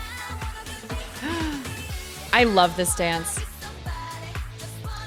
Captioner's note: gasps